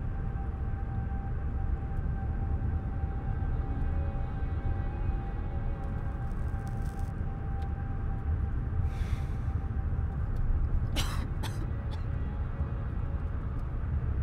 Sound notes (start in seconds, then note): 8.8 exhales smoke; 11.0 coughing